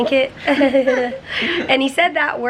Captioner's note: chuckling